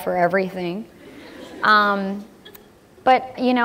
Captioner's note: laughter